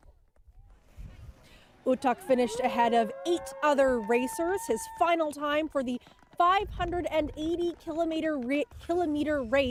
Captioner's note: cheers and Applause